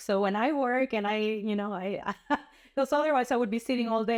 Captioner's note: laughter